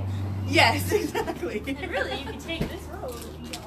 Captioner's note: laughs